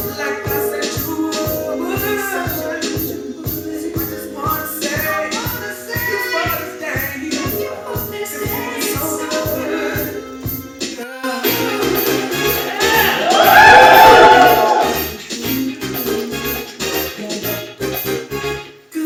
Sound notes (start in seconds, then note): 11.8 audience cheering; 15.9 upbeat music